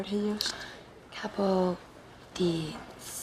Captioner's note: none